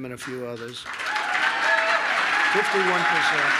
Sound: applause

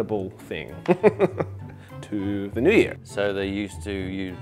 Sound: laughs

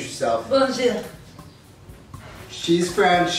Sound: super legit accent

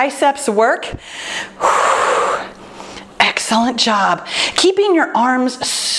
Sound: exhales

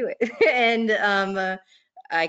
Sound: laughs

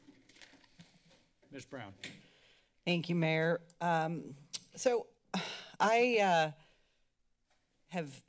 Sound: sighs

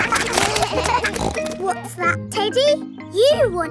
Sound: kids laughing; snorts

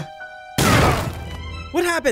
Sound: explosion booms

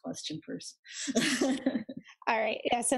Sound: laughs

